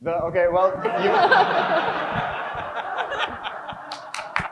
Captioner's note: crowd chuckles